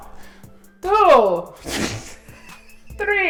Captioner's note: hysterical laughter